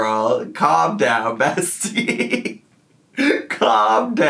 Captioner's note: laughs